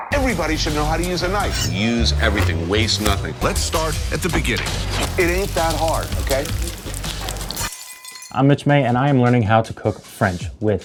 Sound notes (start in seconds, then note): 4.6 fire crackles